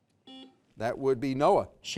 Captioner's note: buzzer beeps